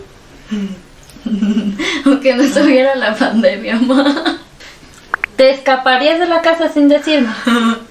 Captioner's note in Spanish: risas